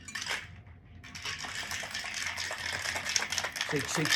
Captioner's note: ice clangs